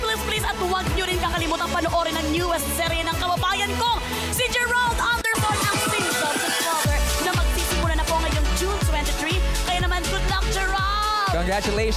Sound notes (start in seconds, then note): none